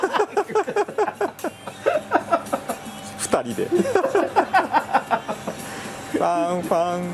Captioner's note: laughs